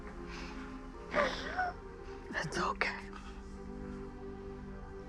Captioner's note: Tara cries